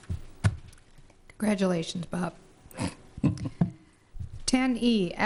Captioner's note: laughter